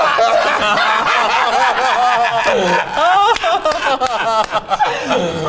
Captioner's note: group continues laughing